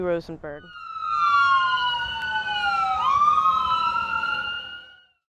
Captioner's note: sirens Wailing